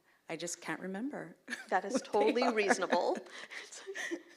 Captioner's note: laughs